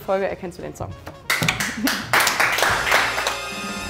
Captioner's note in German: Applaus